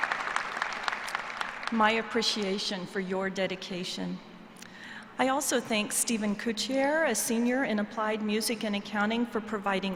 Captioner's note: applause